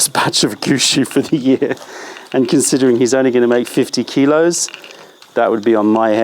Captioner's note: laughter